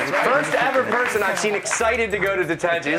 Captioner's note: cheers and applause